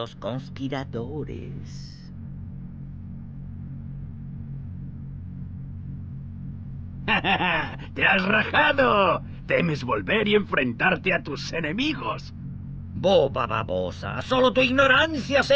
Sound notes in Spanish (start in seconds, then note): 4.2 risas